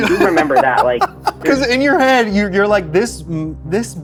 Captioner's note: laughs